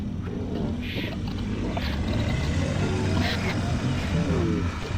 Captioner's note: distorted voice growls